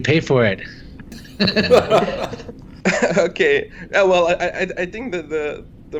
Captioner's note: laughs